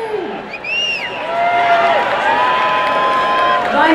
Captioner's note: applause and cheering